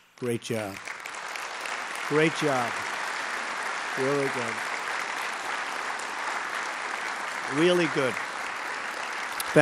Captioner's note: applause